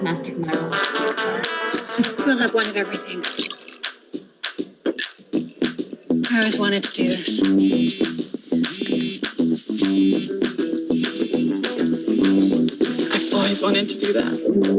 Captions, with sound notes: - I've mastered my order. We'll have one of everything. (liquor pouring) (glasses clinking) I always wanted to do this. (phone buzzing) (water splashing) - I've always wanted to do that.